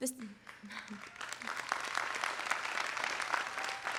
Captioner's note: applause